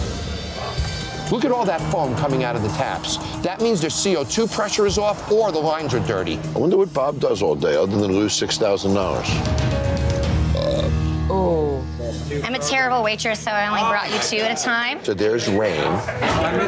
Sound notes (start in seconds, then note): 10.3 burps